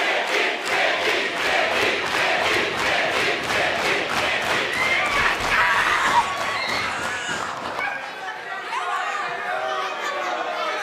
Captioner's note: crowd cheering